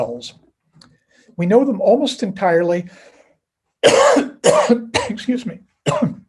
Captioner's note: coughs